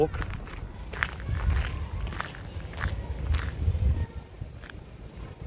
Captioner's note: gravel crunching